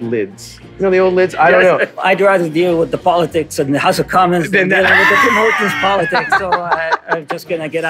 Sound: laughter

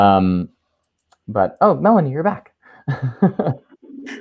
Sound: laughs

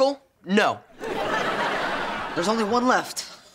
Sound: laughing

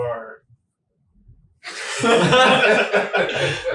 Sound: all laughing

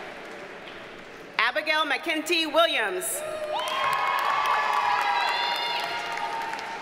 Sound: audience cheers and applauds; audience cheers and applauds

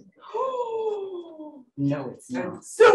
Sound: gasping

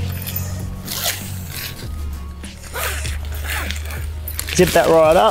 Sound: zipper zipping

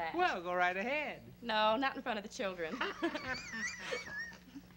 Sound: laughter

